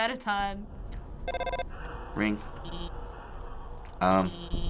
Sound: phone ringing

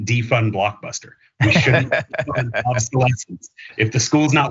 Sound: laugh

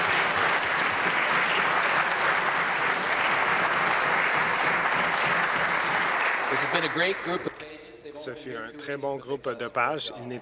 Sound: applause

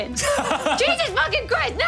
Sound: laughs

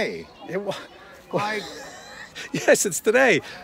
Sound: laughing

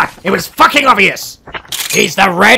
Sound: COCKS shotgun

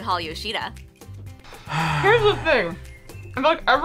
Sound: sighs

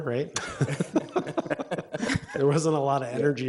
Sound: all laughing

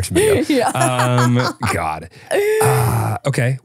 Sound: laughing

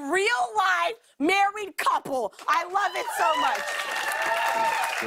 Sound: cheers and applause

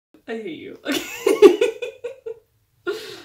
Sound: laughing

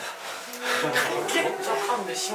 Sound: taking a deep breath

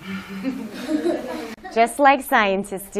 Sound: laughter

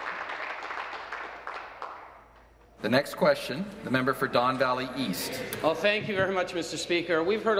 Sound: applause

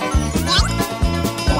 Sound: squeak

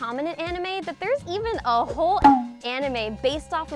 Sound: beep

